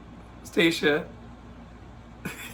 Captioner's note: laughs